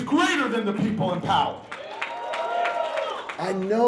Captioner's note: applause